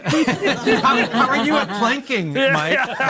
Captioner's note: all laughing